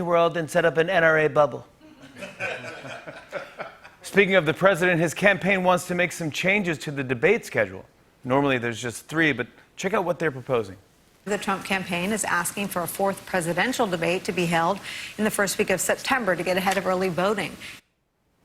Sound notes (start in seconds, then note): 1.9 laughter